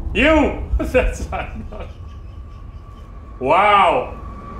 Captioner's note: chuckling